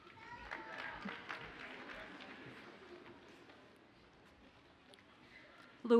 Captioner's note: audience cheers and applauds faintly